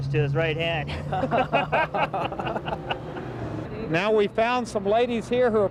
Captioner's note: laughing